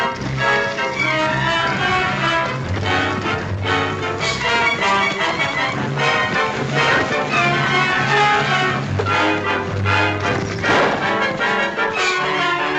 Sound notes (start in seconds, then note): 10.6 gunshot